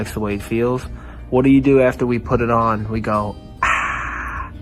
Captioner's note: sound of relief